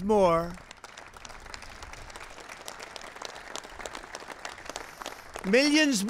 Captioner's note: applause